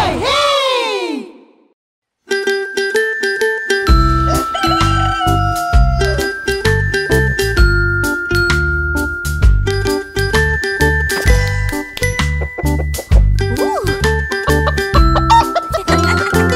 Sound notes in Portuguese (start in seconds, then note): 2.1 Som de galo; 2.3 Música Alegre; 14.4 Risos